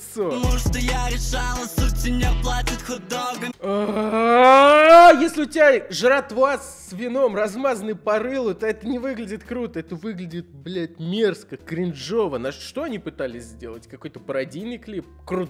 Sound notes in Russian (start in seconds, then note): 3.8 крик зовущий на помощь